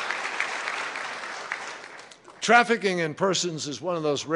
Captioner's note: applause